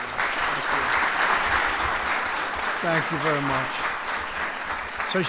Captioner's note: applause